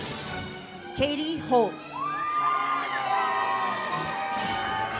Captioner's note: audience cheers; uplifting music